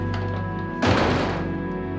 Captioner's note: door slams